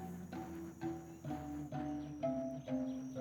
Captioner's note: birds chirping